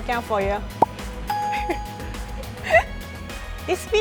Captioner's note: laughs